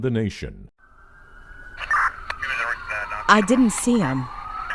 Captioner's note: sirens blaring